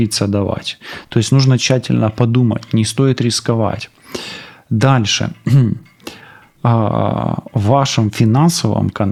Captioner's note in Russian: откашливается